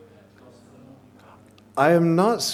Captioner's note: man speaks softly